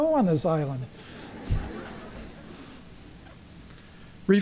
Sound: laughter

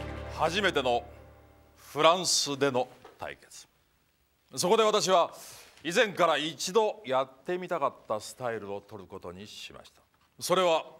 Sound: non-english speech

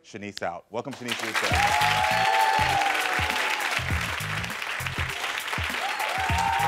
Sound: audience cheering and applauding

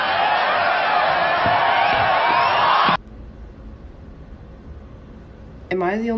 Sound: audience continues cheering

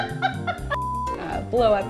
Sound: everyone laughing; beep

